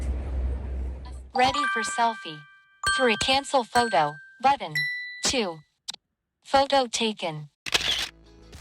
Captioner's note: shutter sound